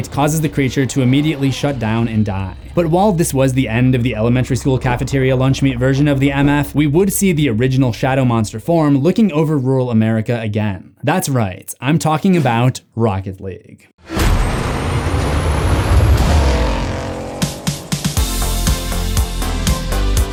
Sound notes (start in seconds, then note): 14.1 car engine revving; 18.1 upbeat music